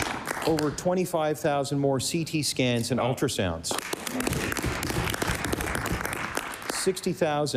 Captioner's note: applause